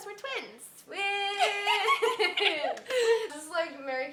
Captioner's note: laughing